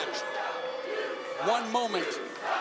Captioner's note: fans chanting